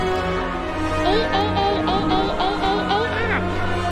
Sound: penny screaming in fear

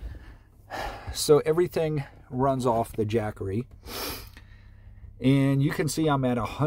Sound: sniffs

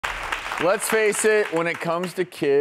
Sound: audience claps

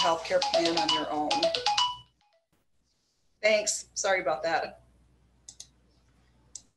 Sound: phone ringing

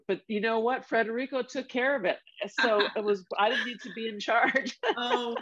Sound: laughter

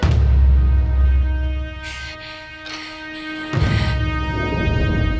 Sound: panting

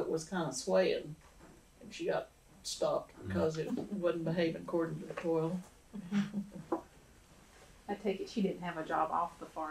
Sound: laughter

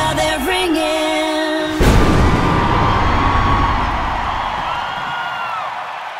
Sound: crowd cheering

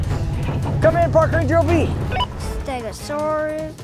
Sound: radio beeps

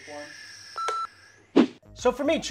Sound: blowing; beep

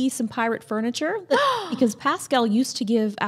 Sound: gasps

